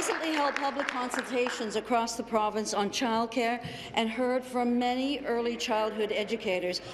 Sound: applause

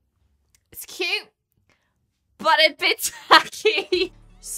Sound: laughs

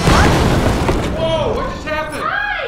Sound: explosion

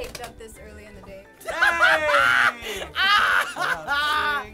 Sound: laughs; laughs boisterously

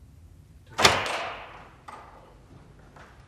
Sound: door opening

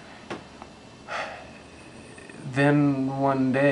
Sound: sigh

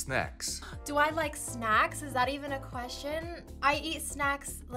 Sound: gasps

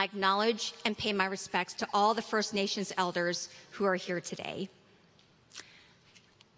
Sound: none

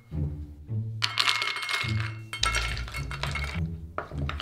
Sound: cashews pouring

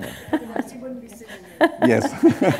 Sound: chuckle

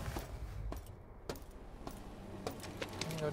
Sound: footsteps

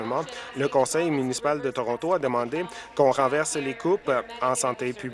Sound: applause

